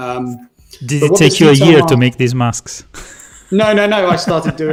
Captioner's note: laughs